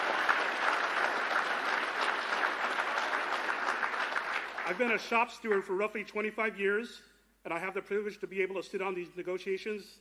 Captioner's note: cheers and applause